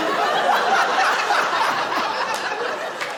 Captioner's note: laughs; laughter